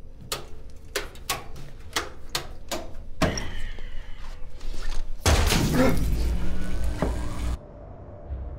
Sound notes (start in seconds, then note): 4.4 electricity hums; 4.9 gasps